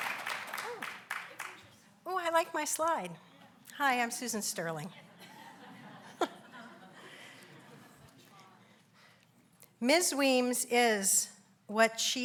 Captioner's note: applauds; laughs